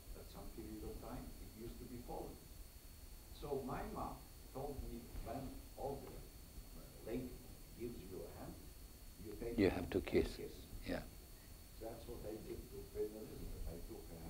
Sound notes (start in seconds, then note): none